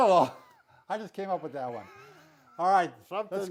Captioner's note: laughing